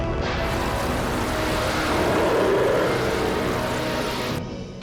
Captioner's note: loud growl